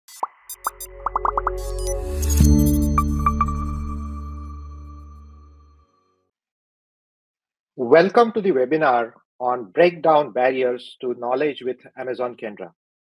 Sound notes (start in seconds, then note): 0.0 graphics popping; 0.0 graphics beeping; 2.4 bright music; 2.4 logo chiming